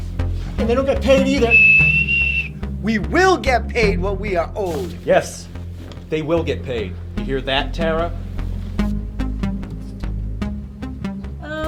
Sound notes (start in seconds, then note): 1.1 whistles; 9.1 pensive music continues